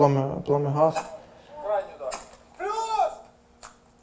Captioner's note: voices